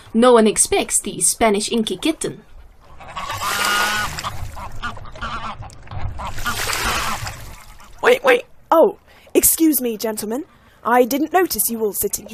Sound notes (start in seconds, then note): 2.2 duck lands on the lake with a splash; 7.8 quacks